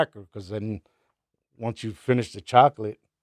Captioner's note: none